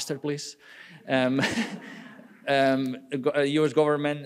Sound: laughing; audience laughing

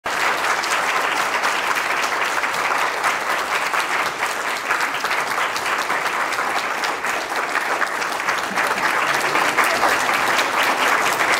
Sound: applause

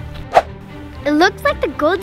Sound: air whooshes

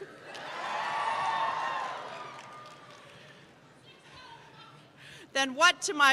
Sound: cheers

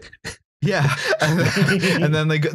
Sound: laughter

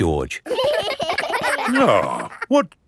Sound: giggling

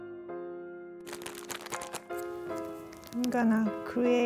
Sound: paper rustling

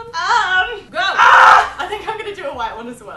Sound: screaming

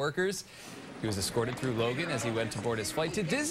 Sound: applause

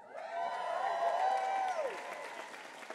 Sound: applause

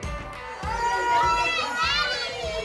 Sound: group cheering

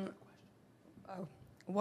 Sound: whispers

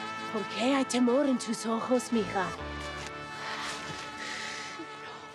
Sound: music playing; mother speaking in Spanish

